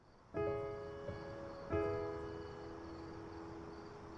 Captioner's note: crickets chirping